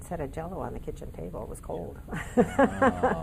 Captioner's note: laughing